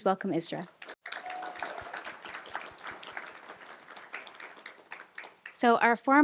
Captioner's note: applause